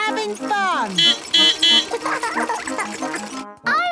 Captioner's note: beeping; laughing